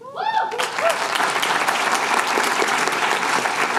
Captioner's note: applause